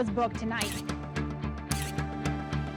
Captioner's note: camera shutter clicks